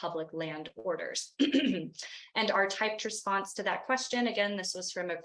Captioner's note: clears throat